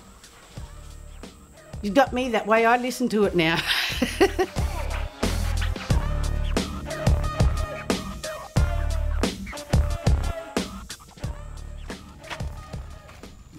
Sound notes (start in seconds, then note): 4.5 laughs